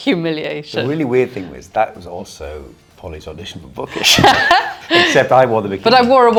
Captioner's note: laughing